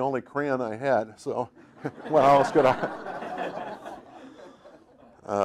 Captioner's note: laughing; audience laughing